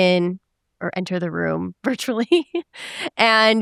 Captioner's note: chuckles